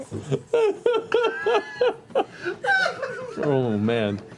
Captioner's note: laughter